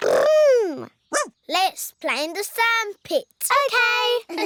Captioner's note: barks